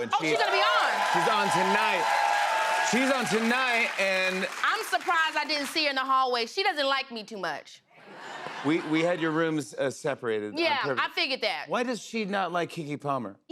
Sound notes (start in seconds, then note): 0.0 cheers and applause; 8.0 laughter